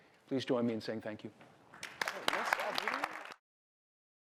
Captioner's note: applause